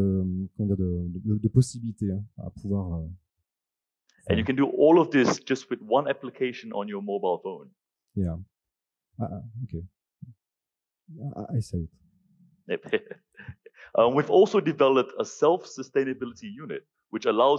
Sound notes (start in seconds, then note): 12.7 laugh